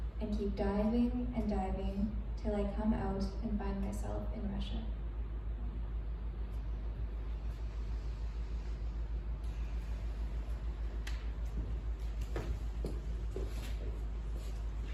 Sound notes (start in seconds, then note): 6.8 inhale; 9.9 exhale